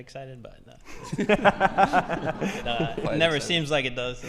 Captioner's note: all laughing